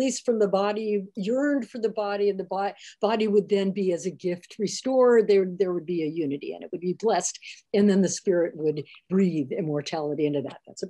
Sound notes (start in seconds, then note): none